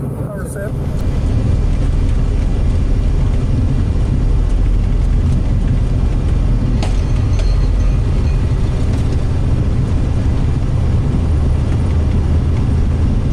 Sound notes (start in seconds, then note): 1.9 aeroplane engine roars; 5.8 aeroplane shakes